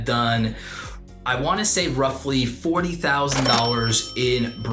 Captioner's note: cash register dings